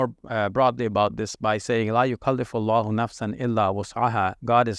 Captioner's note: speaking in Arabic